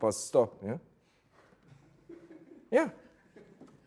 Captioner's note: students laughing softly